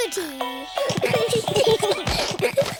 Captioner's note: all giggling